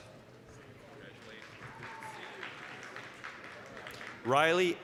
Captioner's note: applause